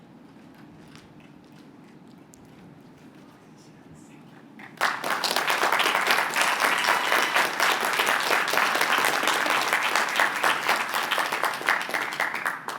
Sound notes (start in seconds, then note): 6.7 applause